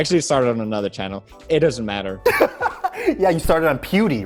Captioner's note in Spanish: risas